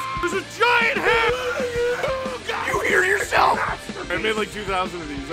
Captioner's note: Harry potter screaming; screaming